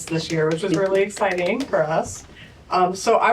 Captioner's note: applause